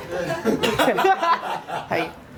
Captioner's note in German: Lachen